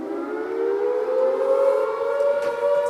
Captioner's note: air raid siren blares